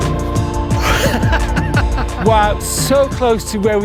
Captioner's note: laughs